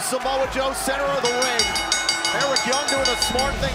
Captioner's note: bell ringing